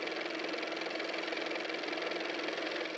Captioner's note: car motor